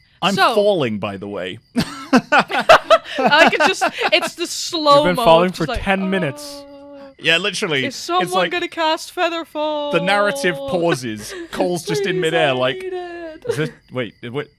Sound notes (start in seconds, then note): 1.7 laughs; 8.1 dramatically